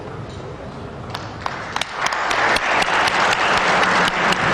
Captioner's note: applause